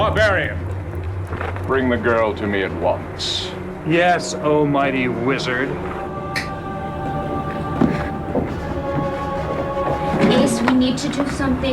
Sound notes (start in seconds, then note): 6.3 snaps fingers